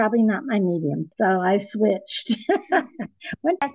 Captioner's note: haha